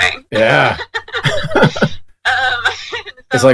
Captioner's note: laughs